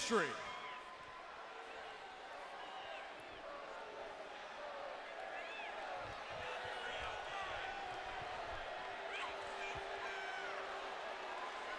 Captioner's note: crowd chatter